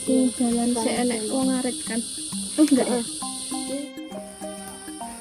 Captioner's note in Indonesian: mengobrol